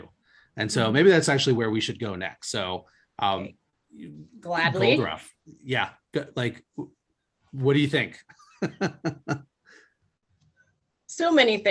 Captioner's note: laughs